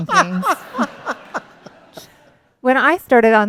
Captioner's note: laughter